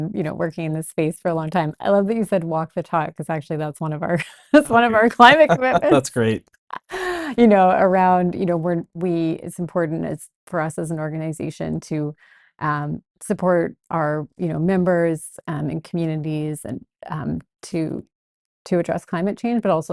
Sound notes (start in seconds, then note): 4.6 laughs